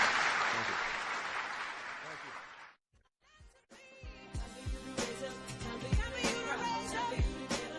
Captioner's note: applause